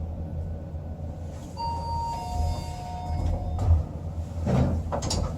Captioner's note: chime